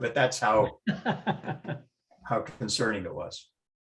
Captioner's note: laughter